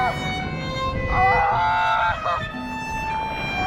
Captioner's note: screaming